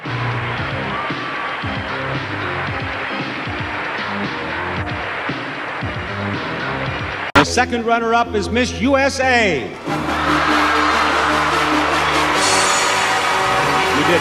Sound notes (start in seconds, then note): 0.2 soul music; 3.1 crowd applauding; 9.7 crowd cheering; 11.5 vintage music